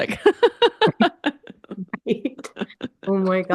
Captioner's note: laughs